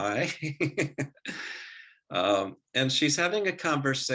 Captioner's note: laughing